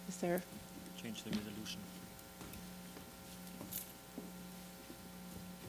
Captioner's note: talking quietly about setup